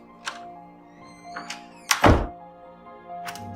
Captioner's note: door shuts